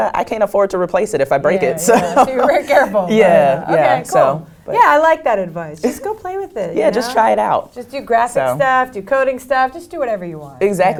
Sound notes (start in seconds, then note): 1.6 laugh